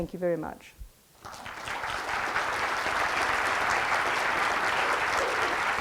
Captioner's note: audience applauds